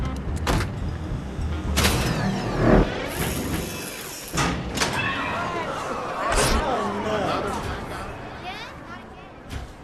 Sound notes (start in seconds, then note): 4.8 people exclaiming